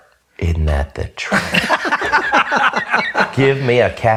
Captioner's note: laughs